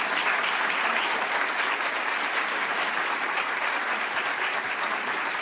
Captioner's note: applause